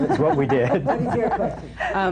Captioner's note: laughter